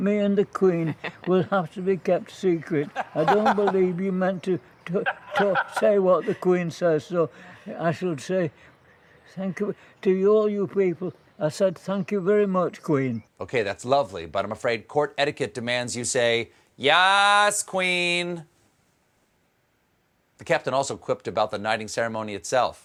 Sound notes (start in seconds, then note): 4.8 laughter